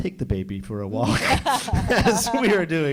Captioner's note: all laughs